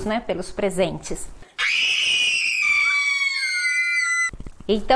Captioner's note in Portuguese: gritos